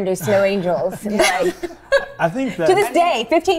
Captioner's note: laughs